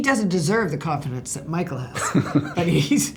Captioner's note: laughs